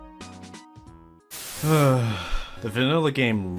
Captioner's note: sigh